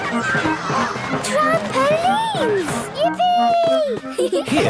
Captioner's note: George giggles; gasps; giggling